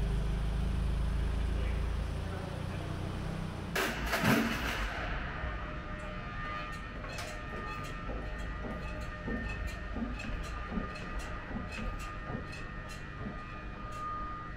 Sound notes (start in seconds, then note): 6.4 pallet truck squeaking